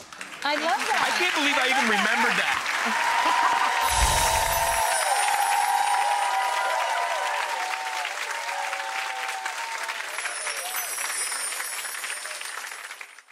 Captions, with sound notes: Thank you so much. (audience clapping) I can't believe I even remembered that. (laughing) (chimes) (applause) (chimes)